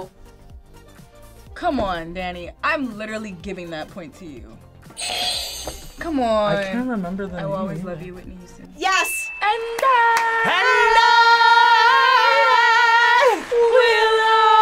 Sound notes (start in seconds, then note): 8.9 audio dings